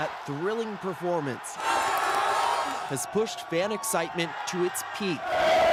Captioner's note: cheers and applause